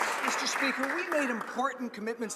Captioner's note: some Applause